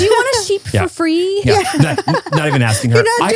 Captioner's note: laugh